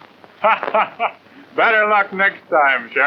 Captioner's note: laughs